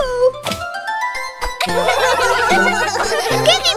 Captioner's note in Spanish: Risas